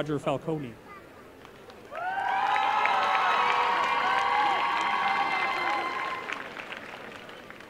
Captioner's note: applause and cheering